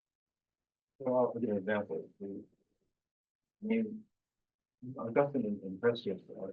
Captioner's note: presenter speaking faintly off mic